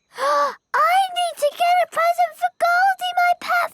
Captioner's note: gasps